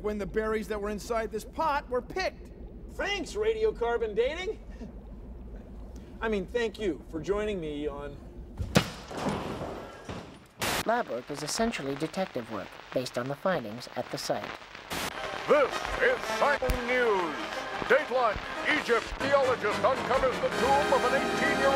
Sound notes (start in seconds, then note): 8.8 <i> pot breaks</i>